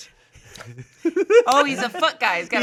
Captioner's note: laughing